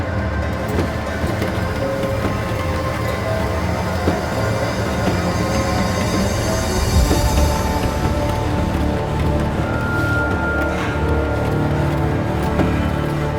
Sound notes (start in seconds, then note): 0.0 curtains rustling; 0.3 chair rocking; 3.7 intense wind and sounds; 7.3 car driving on gravel